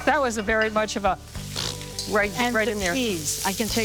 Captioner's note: blows raspberry